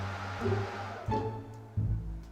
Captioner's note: fans shut down